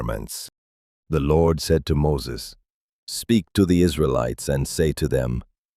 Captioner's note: speaking with authority